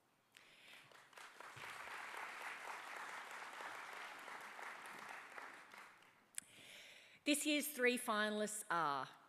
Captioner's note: applause